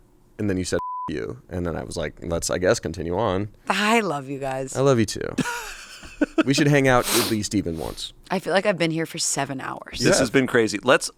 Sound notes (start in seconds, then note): 0.8 beep; 5.4 laughs